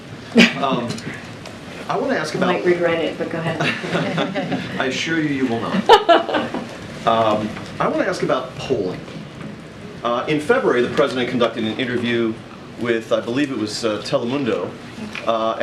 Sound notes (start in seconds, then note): 0.4 laughs; 3.5 laughter